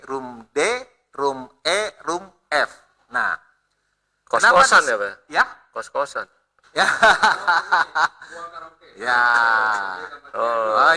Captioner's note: laughs